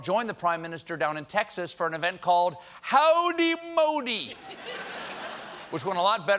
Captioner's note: laughter